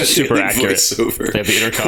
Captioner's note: laughter